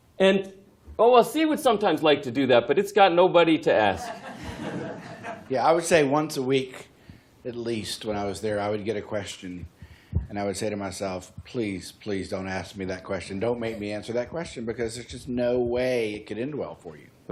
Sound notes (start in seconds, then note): 3.9 laughter